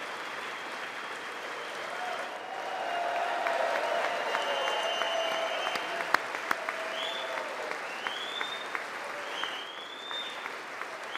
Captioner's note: applause